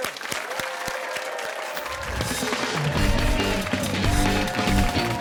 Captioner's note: cheers and applause